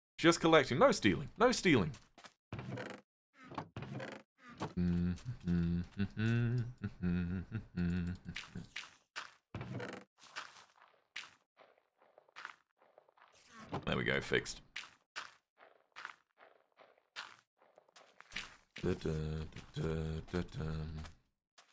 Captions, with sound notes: "Just collecting." No stealing, no stealing! [hums] There we go, fixed. [hums]